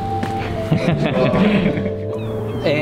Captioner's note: laughing